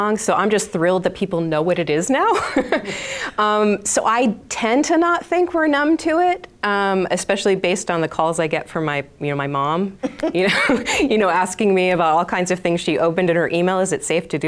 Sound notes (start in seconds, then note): 3.0 laughing; 10.0 participants laughing